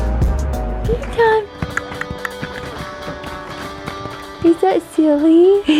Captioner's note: bright jazz music; clicks tongue